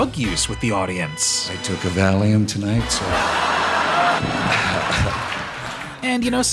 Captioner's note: laughter